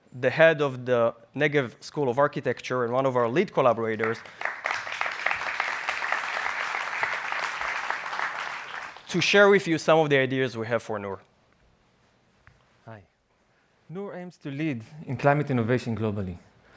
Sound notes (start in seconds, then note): 4.0 audience applauding